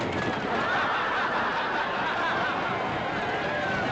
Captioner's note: crowd laughs